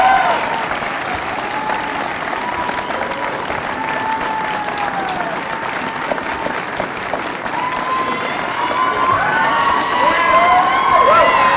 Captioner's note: cheers and applause